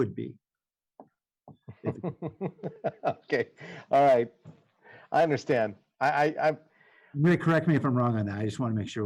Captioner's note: laughter